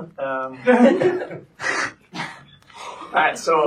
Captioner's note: laughter